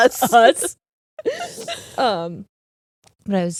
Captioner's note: both laughing